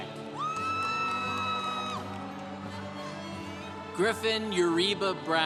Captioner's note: congregation cheering